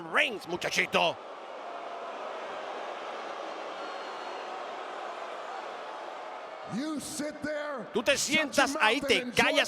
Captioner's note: applause